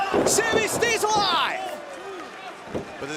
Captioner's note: crowd cheering